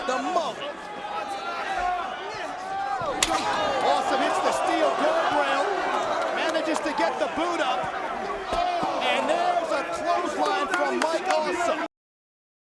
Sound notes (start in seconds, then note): 3.2 guardrail slaps